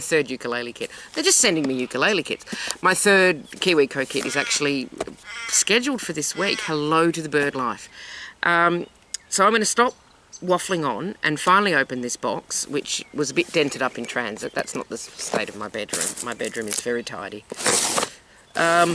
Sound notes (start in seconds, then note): 5.2 crow call